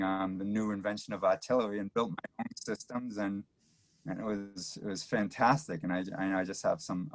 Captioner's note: audio cuts in and out